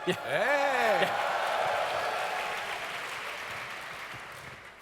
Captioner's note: audience cheers